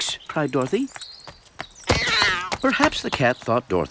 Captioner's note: meow!